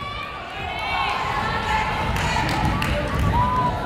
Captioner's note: yelling